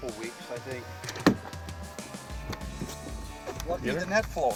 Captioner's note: voiceover